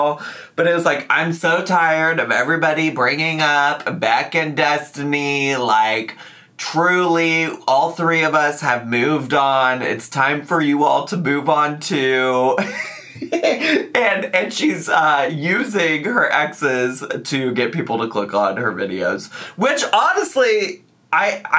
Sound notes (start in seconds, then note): 12.7 laughs